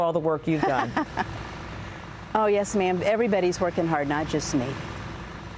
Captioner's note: laughter